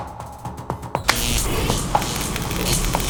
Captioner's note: electricity noises